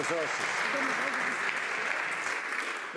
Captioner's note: some Applause